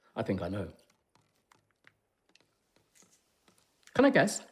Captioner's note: liquid drips